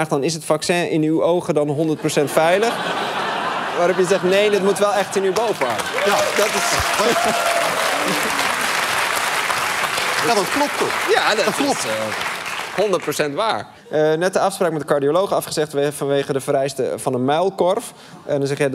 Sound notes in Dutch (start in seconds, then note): 2.0 gelach; 7.4 applaus en gejuich